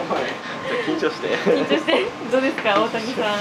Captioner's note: laughs